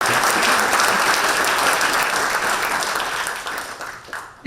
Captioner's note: audience applause